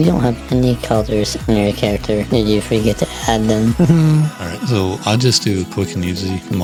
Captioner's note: laughs